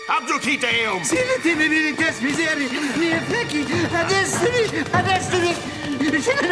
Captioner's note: Petronius speaking foreign language